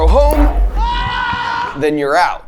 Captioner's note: people cheering